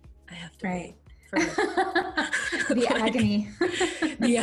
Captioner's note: laughs